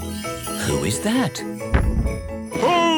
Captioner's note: thump!